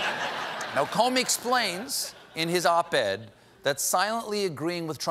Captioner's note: laughter